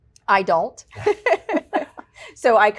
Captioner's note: laughter